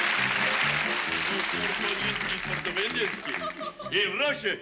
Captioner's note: speaks Russian